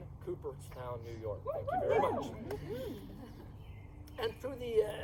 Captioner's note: audience whoops